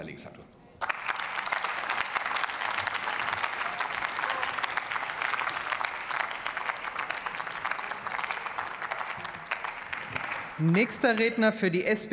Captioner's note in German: Beifall bei der FDP, der SPD und dem BÜNDNIS 90/DIE GRÜNEN